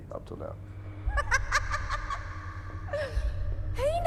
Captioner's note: laughing